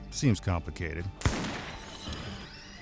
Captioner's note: gunshot